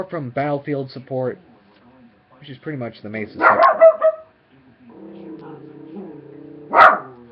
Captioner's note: dog Barking